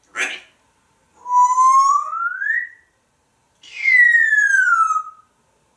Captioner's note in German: Whistle